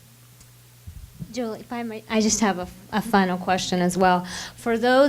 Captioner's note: voiceover